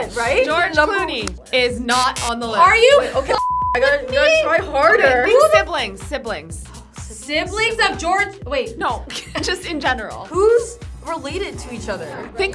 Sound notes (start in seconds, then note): 3.4 beep